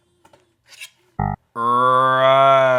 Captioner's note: buzzing